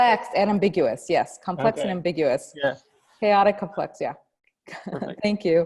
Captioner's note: laughs